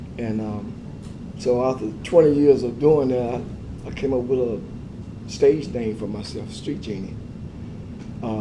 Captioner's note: none